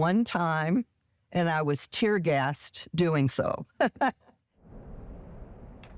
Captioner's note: laughs